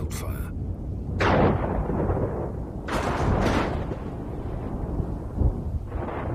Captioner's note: thunder claps